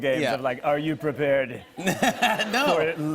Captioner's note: laughter